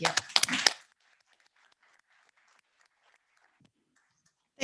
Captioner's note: all applauding